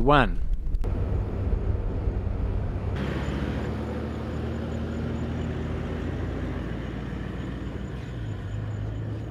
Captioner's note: vehicle sounds